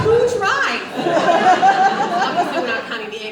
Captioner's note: audience laughs